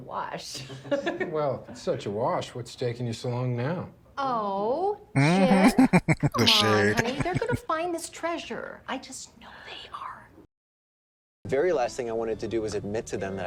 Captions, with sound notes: Uh-huh. [Laughing] The shade.